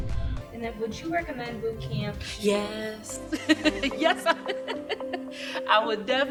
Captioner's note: laughter